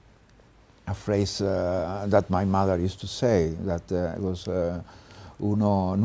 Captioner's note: speaks Spanish